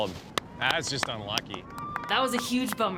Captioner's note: clapping